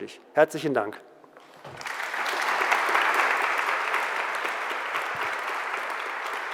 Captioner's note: applause